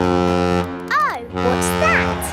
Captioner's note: horn bellowing